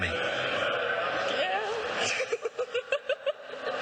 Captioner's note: laughing